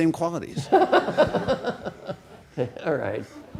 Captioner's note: all laughing